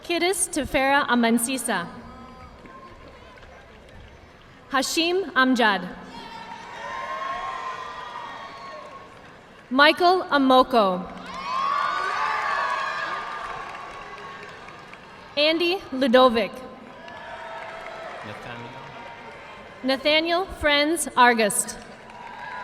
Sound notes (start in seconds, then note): 2.4 audience clapping; 6.2 audience cheering and applauding; 11.0 audience clapping; 16.8 audience clapping